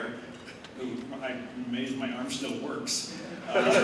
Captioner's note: laughter